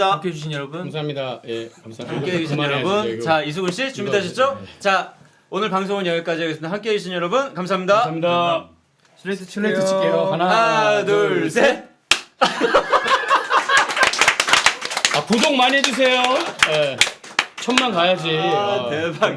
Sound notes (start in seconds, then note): 12.4 laughing